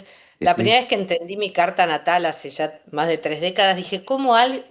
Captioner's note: laughs